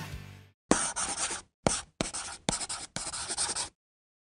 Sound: chalk on chalkboard

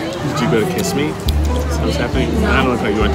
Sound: dramatic music; glasses clink; lips smacking

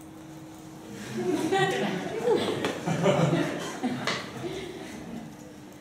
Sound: students laughing

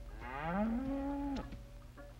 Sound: cows mooing

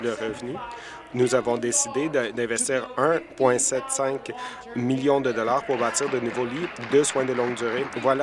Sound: applause

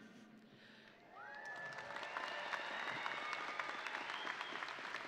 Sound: graduates and audience cheer; graduates and audience applaud

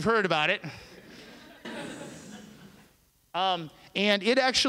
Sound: laughter

